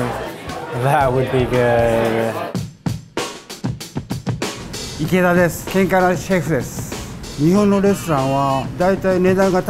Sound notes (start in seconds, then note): 2.8 upbeat music; 5.3 foreign language